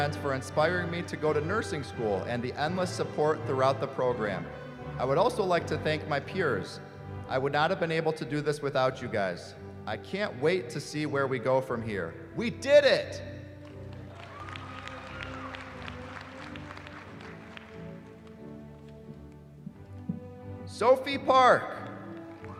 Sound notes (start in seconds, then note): 13.6 applause